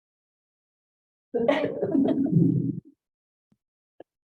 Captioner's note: laughing